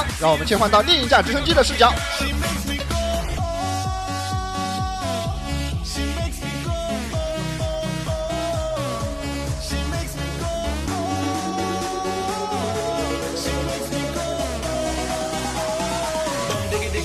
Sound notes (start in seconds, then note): 2.2 excited chatter